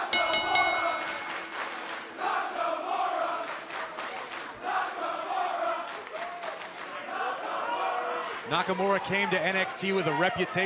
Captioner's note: bell ringing